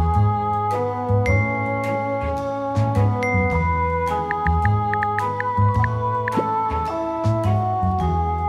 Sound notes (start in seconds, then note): 1.2 text message notifications; 4.2 text message notifications; 4.9 typing; 6.2 message sending sound